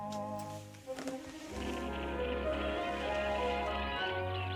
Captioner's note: birds chirping